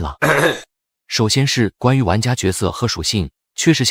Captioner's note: cough